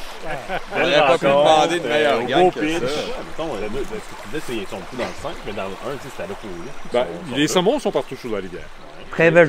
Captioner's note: chatter